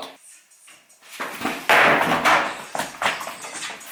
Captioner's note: commotion